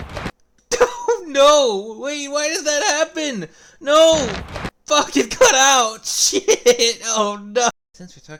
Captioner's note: laughter